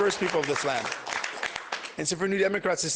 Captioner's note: applause